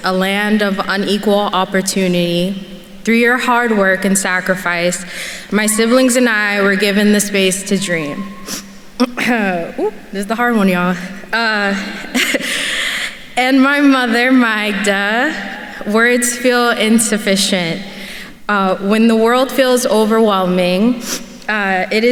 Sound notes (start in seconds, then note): 11.9 chuckles